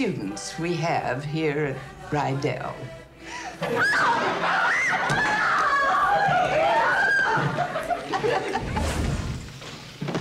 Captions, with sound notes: we have here at Rydell. [screaming] [laughing]